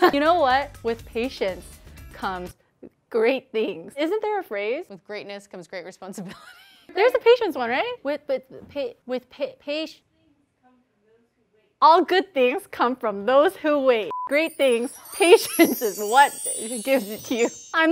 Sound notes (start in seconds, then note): 6.6 laughs; 8.1 stuttering